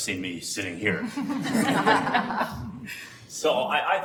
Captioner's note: all laughing